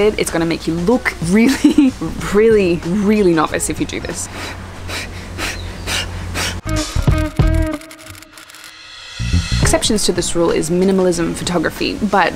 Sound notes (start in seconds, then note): 4.2 breath sounds